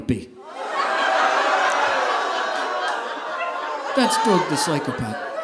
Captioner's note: audience laughing